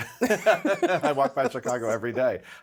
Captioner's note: both laughing